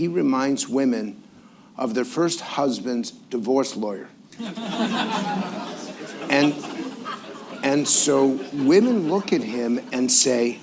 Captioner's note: laughter